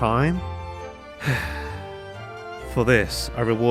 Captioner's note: sigh